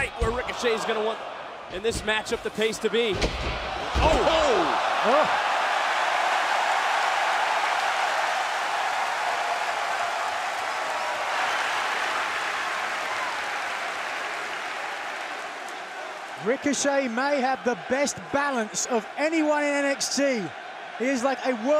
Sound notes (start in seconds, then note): 4.8 crowd cheering